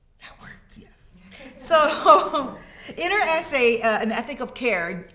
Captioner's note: students laughing